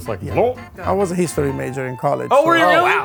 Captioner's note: gulps